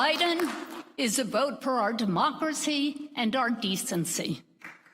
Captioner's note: applause